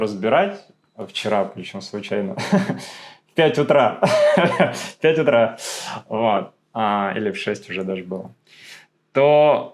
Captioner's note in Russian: смех